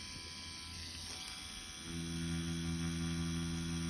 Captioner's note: machine whirring